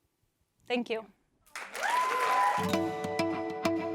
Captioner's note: applause